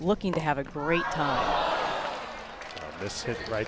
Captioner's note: crowd groans